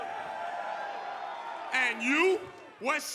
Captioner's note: cheers & applause